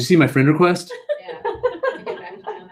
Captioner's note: laugh